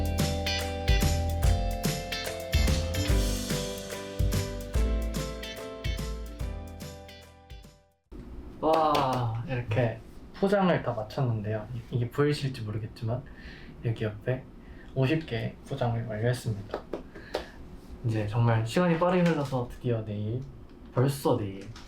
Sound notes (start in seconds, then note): 16.7 clap clap clap